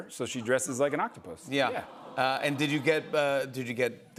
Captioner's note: audience aws